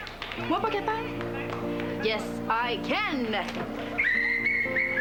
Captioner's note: Sifflet